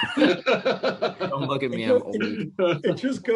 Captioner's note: laughter